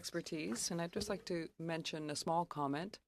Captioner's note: speaking French